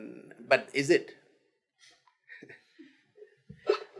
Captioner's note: laughs